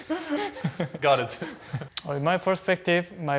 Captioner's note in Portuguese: risos